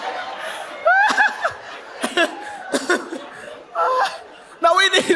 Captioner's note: laughs